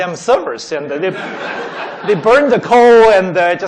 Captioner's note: laughing